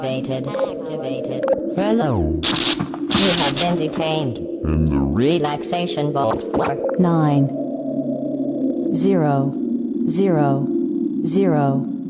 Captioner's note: bzzt